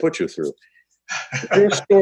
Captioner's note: laughs